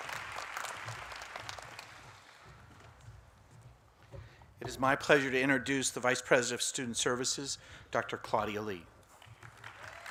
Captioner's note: applause